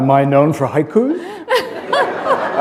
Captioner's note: chuckle